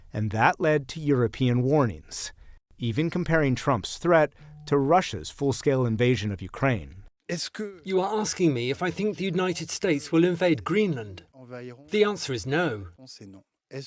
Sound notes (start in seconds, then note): 7.6 through translator